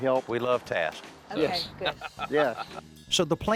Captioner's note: lipford laughs